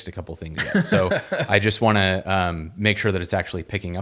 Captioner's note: laughs